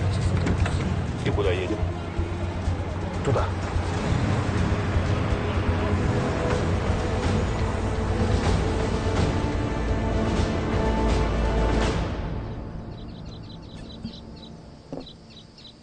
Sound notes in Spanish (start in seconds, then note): none